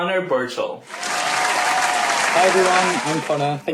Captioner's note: applause